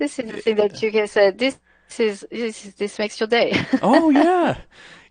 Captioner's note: laughs